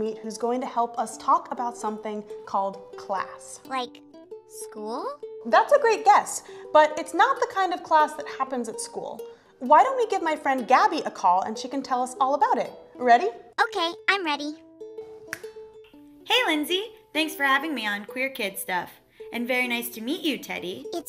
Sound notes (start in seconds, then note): 15.3 snaps her fingers